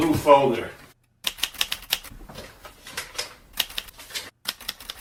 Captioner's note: keys clacking